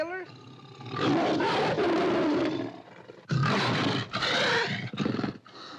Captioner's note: tiger roars & snarls; tiger growls